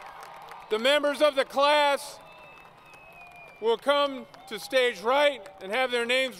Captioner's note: applause